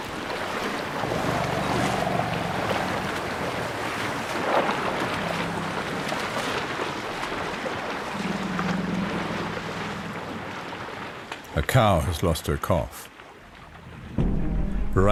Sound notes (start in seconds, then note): 0.9 rumbling; 0.9 animals calling; 14.9 animals calling